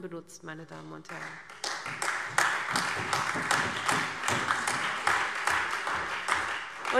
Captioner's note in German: Beifall SPD, CDU, AfD und Freie Demokraten